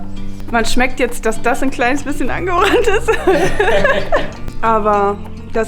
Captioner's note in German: beide lachen sich schlapp